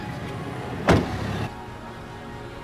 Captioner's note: shutting door